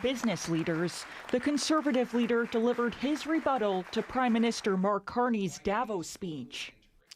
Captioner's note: applause